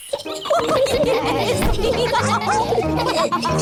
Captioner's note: all giggle